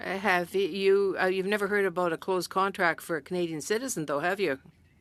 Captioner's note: speaking French